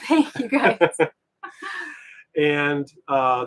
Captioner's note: both giggle